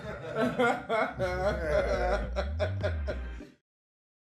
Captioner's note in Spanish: todos ríen